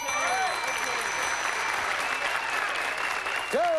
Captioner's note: cheering